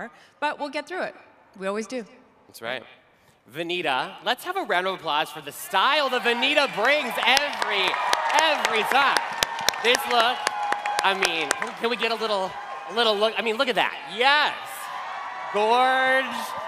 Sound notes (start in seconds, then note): 8.6 cheering